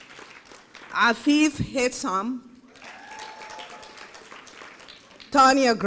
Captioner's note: applause